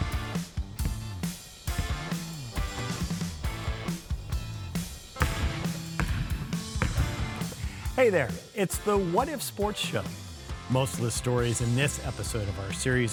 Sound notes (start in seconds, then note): 0.1 upbeat music; 5.3 ball bouncing